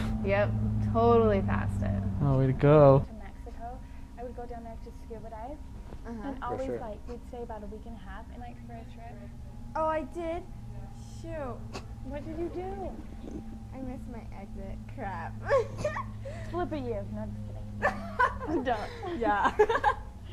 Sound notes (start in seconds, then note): 17.7 laughing; 17.8 giggling; 17.8 both laughing